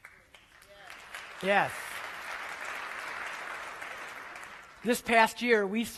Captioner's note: applause